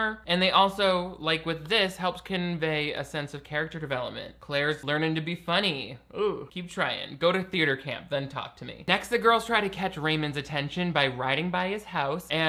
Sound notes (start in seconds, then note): none